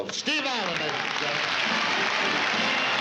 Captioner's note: applause; fanfare playing